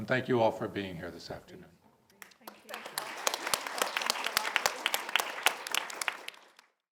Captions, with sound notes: And thank you all for being here this afternoon. - Thank you. (audience applauds) Thanks a lot.